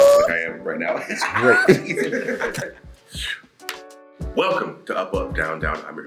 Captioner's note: laugh